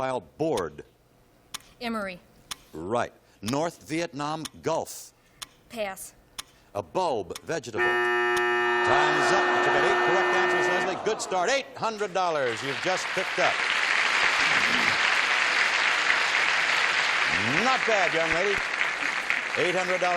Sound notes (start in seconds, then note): 7.8 buzzing; 14.5 applause